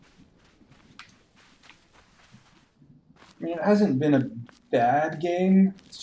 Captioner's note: none